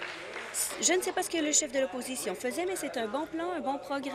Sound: applause

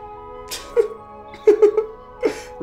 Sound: laughs

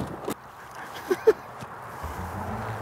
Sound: laughs

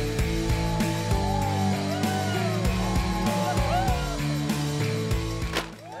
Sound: crowd cheering

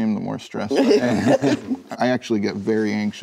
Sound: room laughs

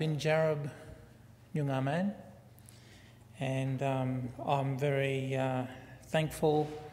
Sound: foreign word spoken

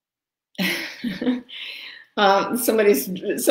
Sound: laughs

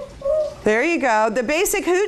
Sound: owl sound

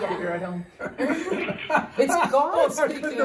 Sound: laughter

